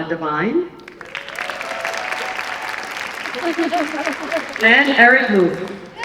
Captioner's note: applause and cheering